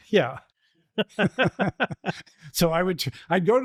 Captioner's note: laughter